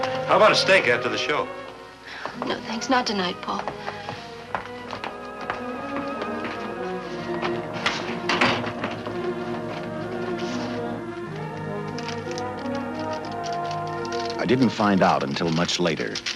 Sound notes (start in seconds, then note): 4.1 sentimental music; 7.3 door closes; 8.9 sentimental music